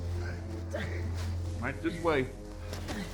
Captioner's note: man groans